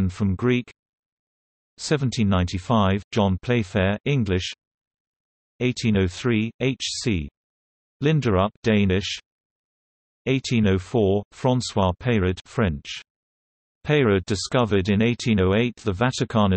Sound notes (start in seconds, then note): 7.9 Danish